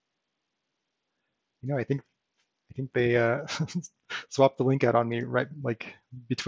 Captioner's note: chuckles